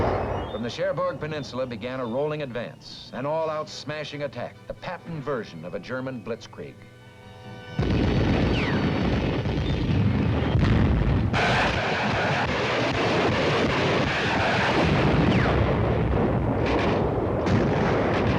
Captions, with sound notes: From the Cherbourg Peninsula began a rolling advance, an all out smashing attack, the Patton version of a German blitzkrieg, (artillery firing)